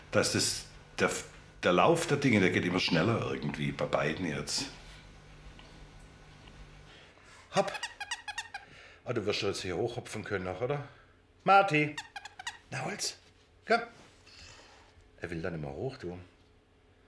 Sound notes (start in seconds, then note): 7.6 "Jens" squeaks; 11.8 "Jens" squeaks